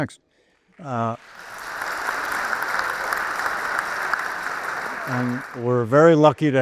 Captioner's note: audience applauds